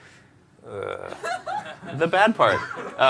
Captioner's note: laughter